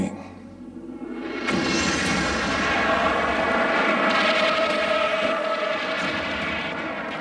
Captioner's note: dramatic music; explosion blasting